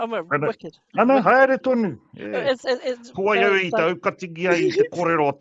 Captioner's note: speaks te Reo Māori